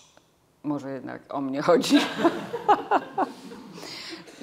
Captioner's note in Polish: śmiech